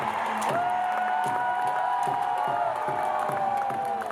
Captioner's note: crowd cheering